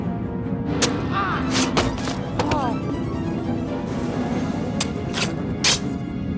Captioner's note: dramatic music continues; attacker grunts; sword squelches; dramatic music continues; sword squelching